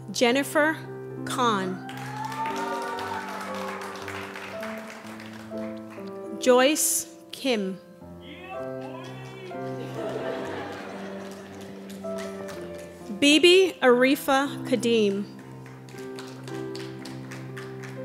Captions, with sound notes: Jennifer Kahn. (applause) Joyce Kim. (audience laughter) Bebe Aretha Hadim.